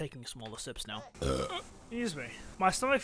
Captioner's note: buurrp